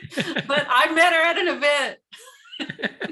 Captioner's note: laughter